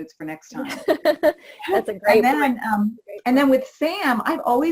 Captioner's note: laughs